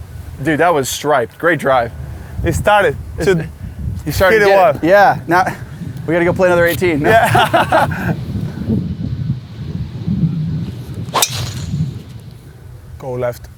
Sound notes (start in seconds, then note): 7.0 laughing